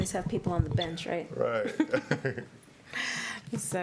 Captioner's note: chuckles